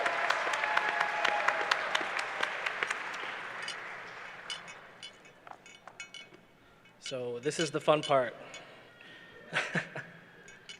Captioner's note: applause